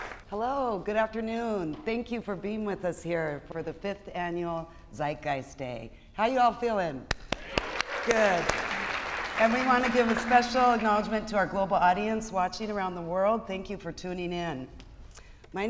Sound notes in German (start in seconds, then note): 7.1 klatscht; 7.2 Beifall